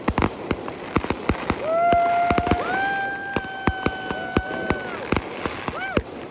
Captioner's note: cheering